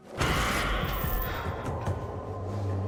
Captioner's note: shrieking roar; suspenseful